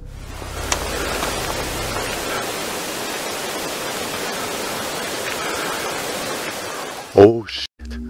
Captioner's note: barely audible footsteps - augmented audio